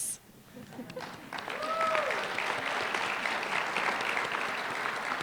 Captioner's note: applause